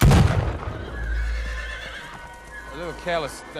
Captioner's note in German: Wiehern